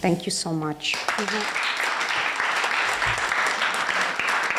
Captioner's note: applause